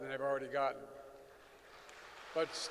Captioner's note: applause